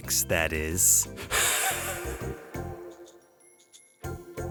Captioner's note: exasperated wheezing laugh